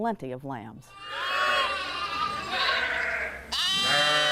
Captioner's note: lambs bleating